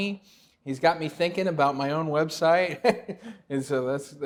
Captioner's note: chuckles lightly